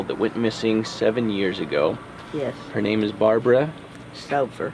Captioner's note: none